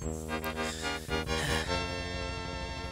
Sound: breathing

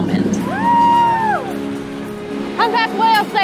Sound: whale watchers cheer

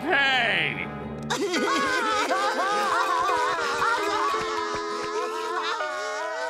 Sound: sobbing

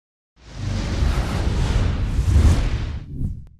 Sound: whooshing

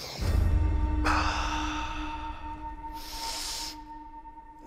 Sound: breathes deeply; tense music

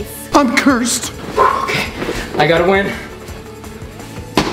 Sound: exhales

